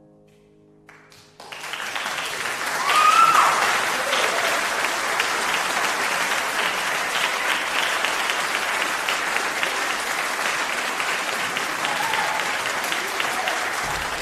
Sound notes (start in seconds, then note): 0.8 applause